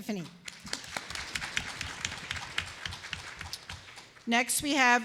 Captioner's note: applause